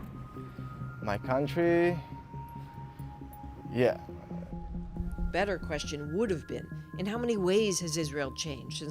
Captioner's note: bombing